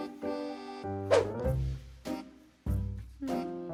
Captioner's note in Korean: 휙!